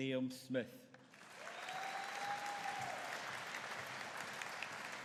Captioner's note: audience cheering